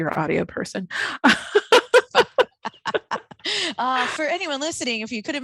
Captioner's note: laughing